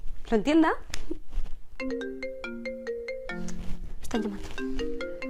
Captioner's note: A pone call sounds